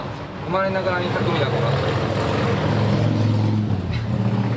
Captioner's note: the sound of a motorbike